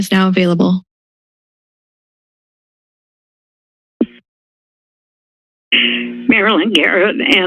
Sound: silence

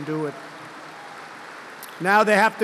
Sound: applause

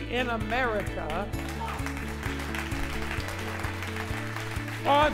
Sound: applause

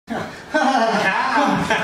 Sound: genuine laughter

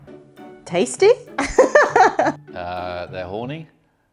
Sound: laughs

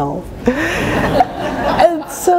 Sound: laughter

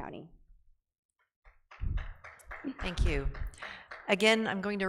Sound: audience member clapping

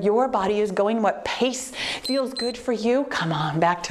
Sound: timer beeps

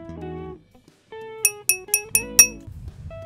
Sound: glass clinks

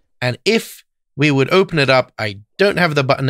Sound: none

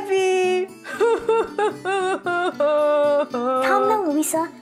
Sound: Luisa sobs

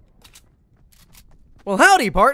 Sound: gun cocking

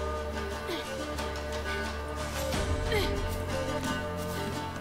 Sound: panting

